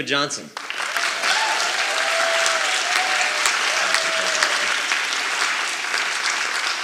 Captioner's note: audience applauding and cheering